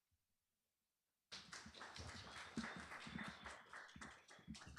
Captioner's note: applause